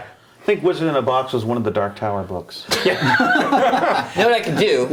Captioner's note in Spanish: risas